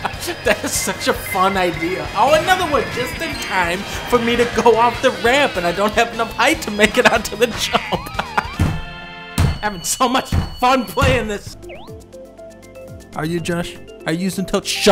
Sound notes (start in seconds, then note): 9.0 banging on desk; 10.8 sarcastically